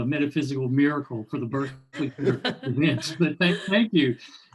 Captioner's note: all laughing